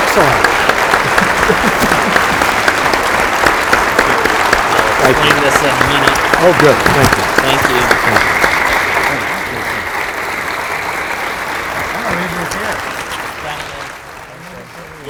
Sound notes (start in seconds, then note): 5.8 speaking faintly